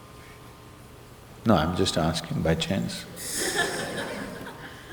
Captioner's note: laughter